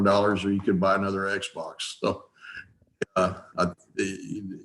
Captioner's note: chuckles softly